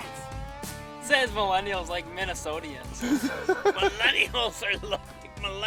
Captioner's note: laughing